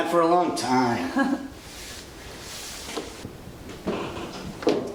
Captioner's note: Alice laughs